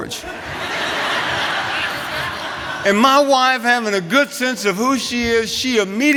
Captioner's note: laughter